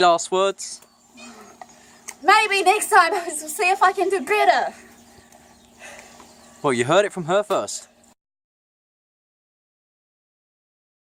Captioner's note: breathing